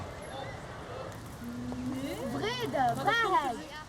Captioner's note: children talking